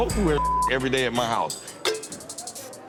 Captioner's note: beep